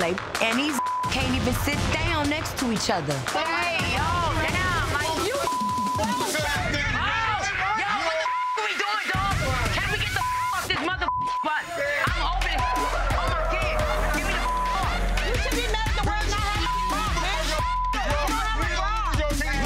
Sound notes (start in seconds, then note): 0.7 beep; 5.2 beep; 8.0 beep; 14.2 beep